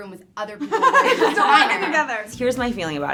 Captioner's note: all laugh